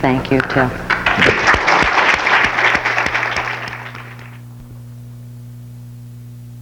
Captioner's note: clapping; audience clapping